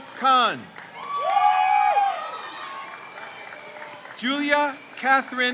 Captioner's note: crowd cheers